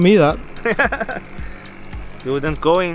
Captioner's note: laughing